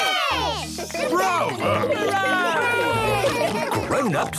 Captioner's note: cheering, applauding